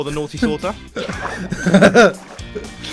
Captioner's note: laughs